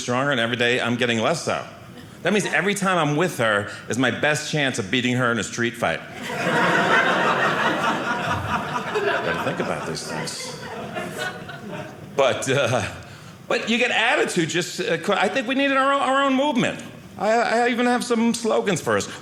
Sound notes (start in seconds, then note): 6.2 audience laughing